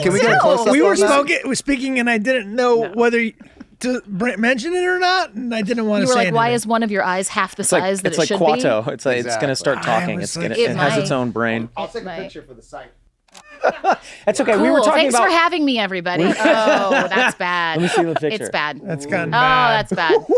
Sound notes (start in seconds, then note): 13.3 shutter clicks; 13.4 Charlie laughs; 19.2 he laughs